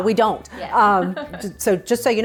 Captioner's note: laughs